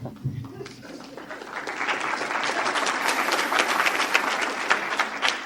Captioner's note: audience applauding